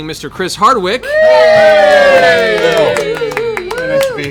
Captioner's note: cheering